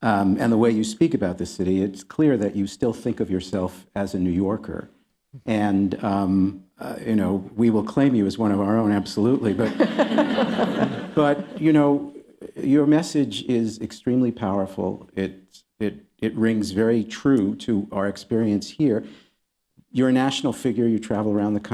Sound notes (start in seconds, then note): 9.4 laughter